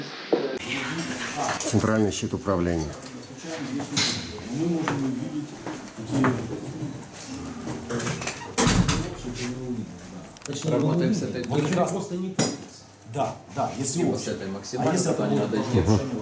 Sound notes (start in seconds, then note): 6.5 conversation of workers in the background